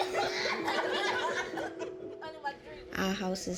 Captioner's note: laughter